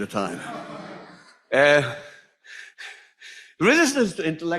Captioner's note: audience laughs